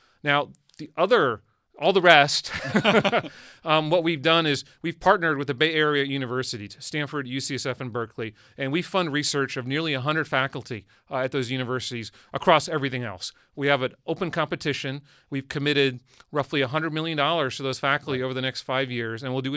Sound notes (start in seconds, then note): 2.4 men laugh